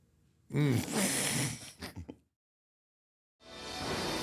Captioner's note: everyone laughing